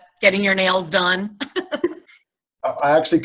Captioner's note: laughs